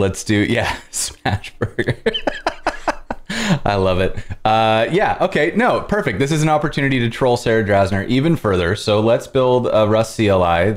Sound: laughter

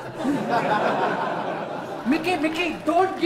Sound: audience laughs

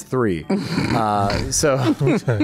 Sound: chuckles

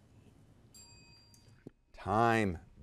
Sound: teammates whisper; bell rings

